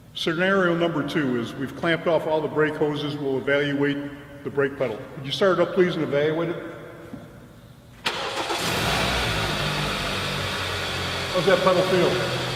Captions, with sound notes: Scenario number two is we've clamped off all the brake hoses. We'll evaluate the brake pedal. Will you start it up please and evaluate it? [Car Starting] How's that pedal feel?